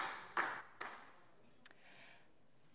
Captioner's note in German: Beifall DIE LINKE